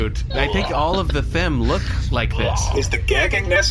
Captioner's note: gagging sounds